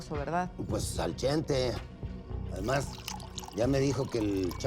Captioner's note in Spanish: sonido al servirse licor